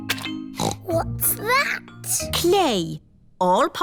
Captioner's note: snorts